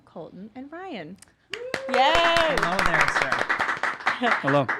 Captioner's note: applauding